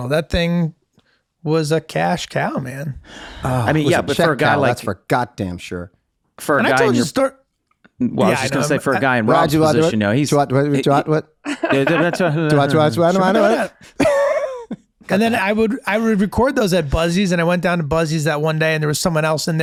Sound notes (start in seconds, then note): 10.2 speaking nonsense